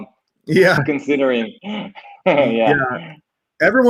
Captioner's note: laughs